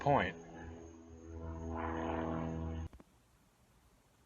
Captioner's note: engine roaring